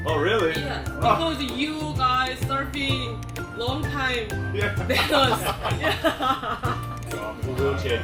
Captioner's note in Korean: ㅋㅋㅋㅋㅋㅋㅋㅋㅋㅋ